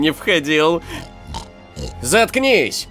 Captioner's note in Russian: Злое хрюканье